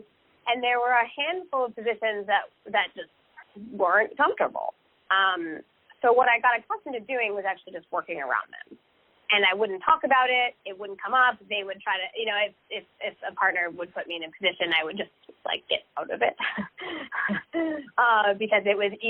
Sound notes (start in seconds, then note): 16.3 laughs